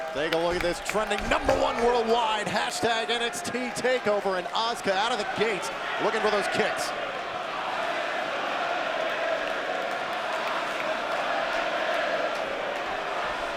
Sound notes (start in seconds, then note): 7.9 crowd chants indistinctly and claps